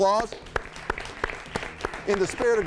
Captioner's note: and audience applauding